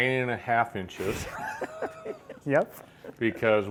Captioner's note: laughing